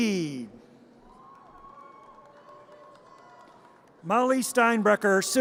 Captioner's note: audience cheers